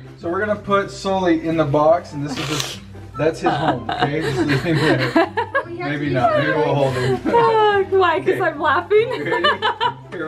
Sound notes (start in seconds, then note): 3.3 laughs; 9.7 laughs